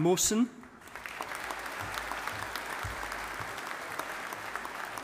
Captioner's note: audience applauding